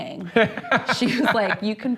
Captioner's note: laughs